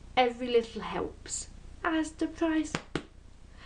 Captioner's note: claps twice